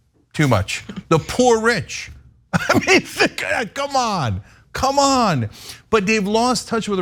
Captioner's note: laugh